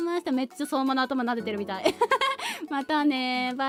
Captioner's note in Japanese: 笑い